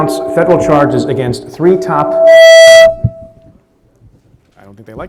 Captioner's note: mic distortion